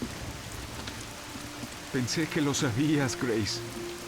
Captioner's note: none